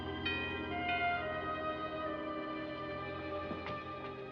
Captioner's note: doorbell ringing